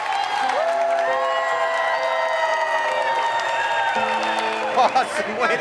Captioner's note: supporters cheering; gentle music